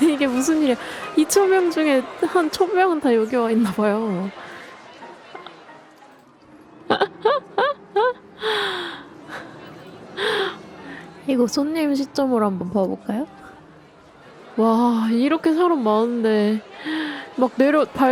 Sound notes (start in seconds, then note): 6.8 laughs